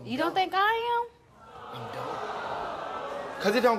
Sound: audience awws

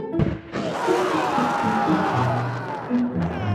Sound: heavy Screaming

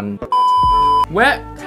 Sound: color bars beep

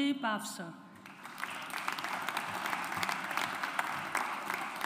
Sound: audience applauds

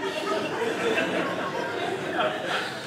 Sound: audience laughing

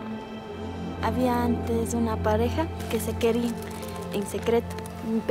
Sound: speaking in foreign language

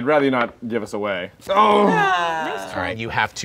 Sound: groaning

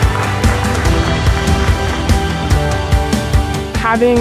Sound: applause

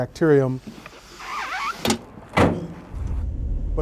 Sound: object squeaks

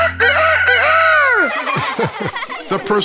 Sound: crowing; laughing

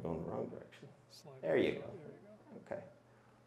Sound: mumbles

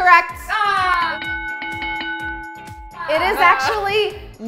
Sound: bell rings

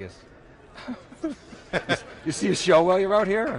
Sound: laughs

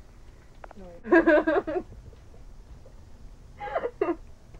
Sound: laughing

